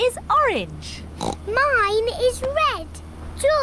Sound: oinks

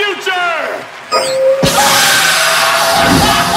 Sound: beeps, buzzes; screams

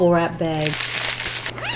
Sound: crinkle

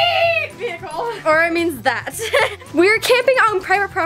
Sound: laughs

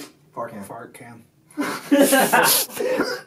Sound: laughter; even more grunting

